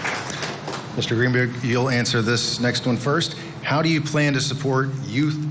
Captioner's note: applause